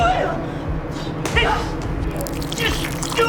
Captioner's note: gun shot